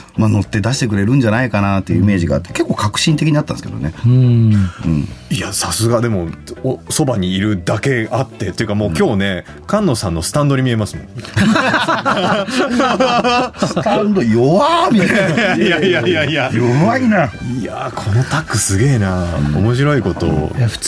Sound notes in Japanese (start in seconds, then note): 5.0 咳払い; 11.2 笑い